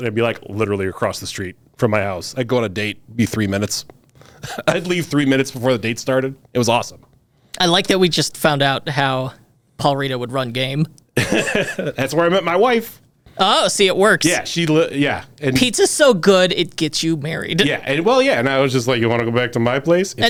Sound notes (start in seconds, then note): 11.2 laughs